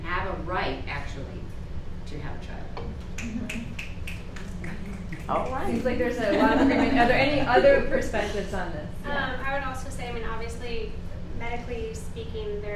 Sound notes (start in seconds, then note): 3.1 participants snapping; 5.9 participants laughing